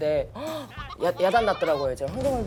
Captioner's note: murmuring